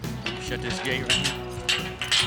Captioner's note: gate clanking